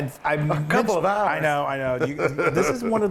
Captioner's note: laugh